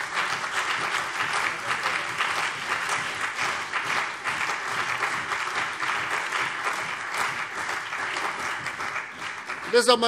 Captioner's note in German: Beifall CDU und BÜNDNIS 90/DIE GRÜNEN